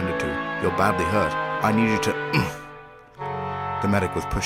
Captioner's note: grunt